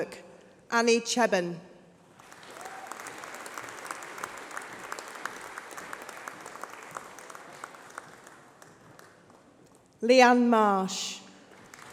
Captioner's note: applause